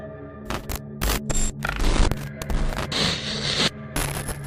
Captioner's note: electrical buzzing